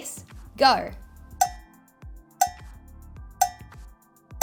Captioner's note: timer ticking